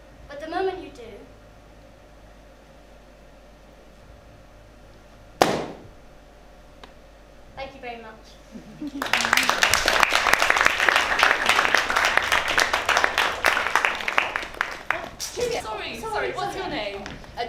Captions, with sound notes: But the moment you do... [LOUD BANG] Thank you very much. [APPLAUSE] Sorry what's your name?